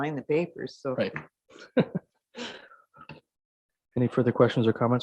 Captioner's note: chuckling